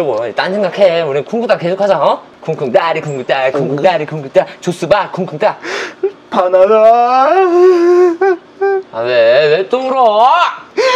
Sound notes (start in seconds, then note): 7.5 sob...!!!! ㅠㅠㅠ; 10.6 sobbing